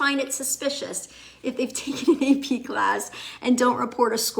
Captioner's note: laughs